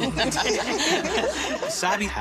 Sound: chuckle

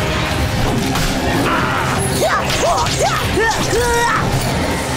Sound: grunting

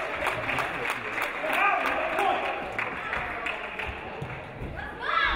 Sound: audience cheering; audience applauding

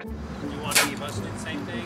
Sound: spits

